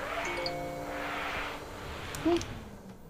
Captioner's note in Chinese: 電話鈴聲